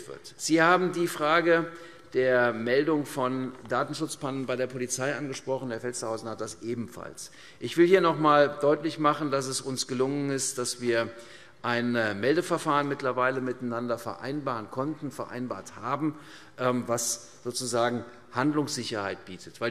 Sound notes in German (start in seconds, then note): none